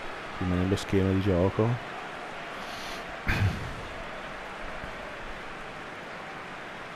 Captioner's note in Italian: Applauso